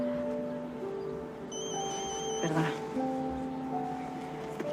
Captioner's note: phone